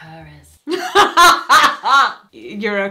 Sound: laughs

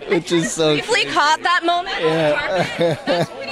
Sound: chuckles

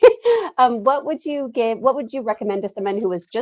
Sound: giggles

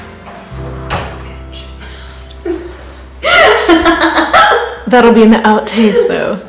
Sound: laughing

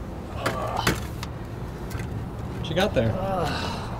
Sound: grunting

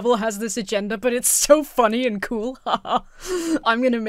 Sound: laughs smugly

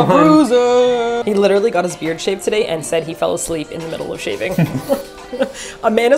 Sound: laughing

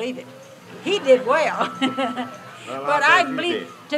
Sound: chuckles

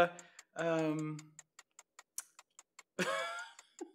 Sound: clock ticking; laughs

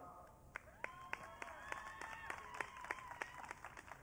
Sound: audience cheering

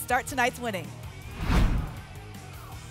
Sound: whoosh

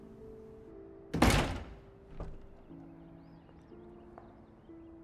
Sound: door slamming

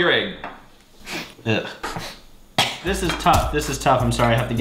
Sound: coughs

